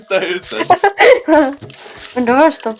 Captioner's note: laughing